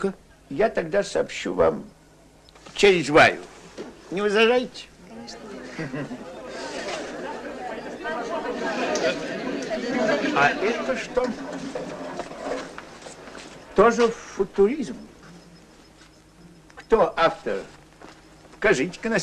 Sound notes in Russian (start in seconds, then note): 5.6 смех